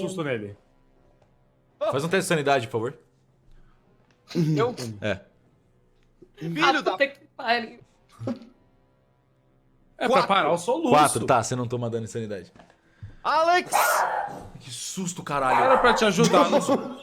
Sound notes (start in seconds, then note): 13.6 dog barking; 15.4 laughs